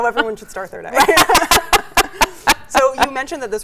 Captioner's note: both laugh